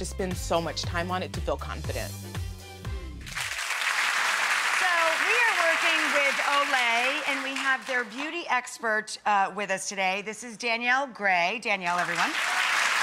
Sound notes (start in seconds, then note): 3.3 clapping; 11.9 clapping